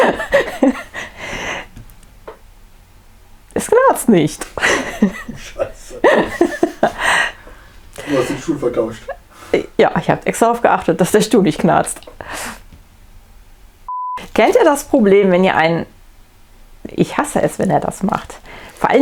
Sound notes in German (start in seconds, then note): 0.0 lacht; 4.5 lacht; 7.2 Aus dem Off